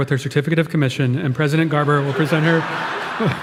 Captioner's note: audience laughing